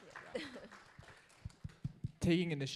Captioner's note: audience applauds